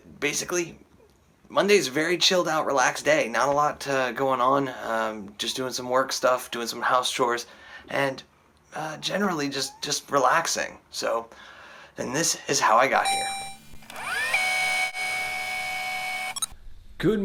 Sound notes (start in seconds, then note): 12.9 tape rewinding; 13.0 robotic ding